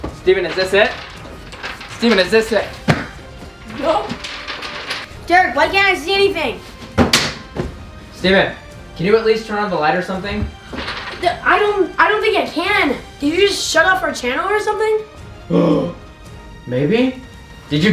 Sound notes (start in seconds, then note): 6.9 loud banging